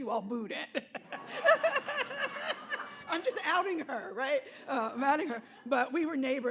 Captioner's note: laughing